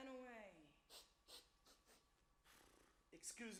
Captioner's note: man sniffs and snorts